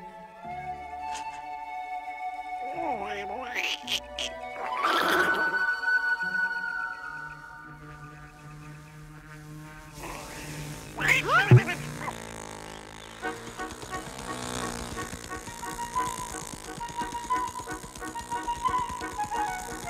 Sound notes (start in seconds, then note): 3.6 grunting; 7.8 distant buzzing; 10.9 squeaking in shock